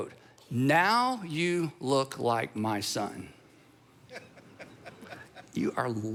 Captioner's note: audience member laughing